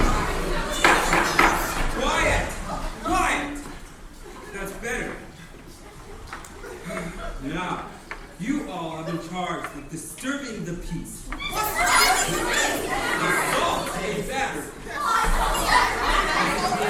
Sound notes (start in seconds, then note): 0.0 crowd commotion; 0.0 gavel *bang-bang-bang; 11.4 crowd commotion; 15.4 crowd Commotion